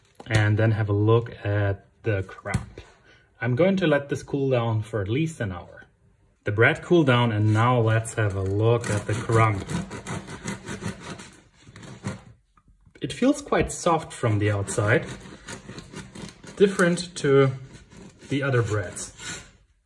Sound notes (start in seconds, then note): 9.8 knife scraping